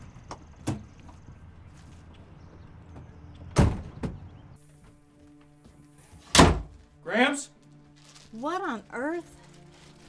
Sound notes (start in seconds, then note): 1.5 gentle music; 6.3 door slams